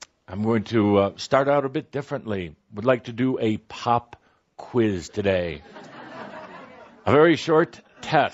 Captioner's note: some laughter